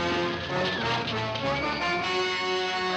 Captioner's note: women screaming